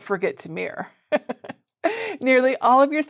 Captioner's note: chuckles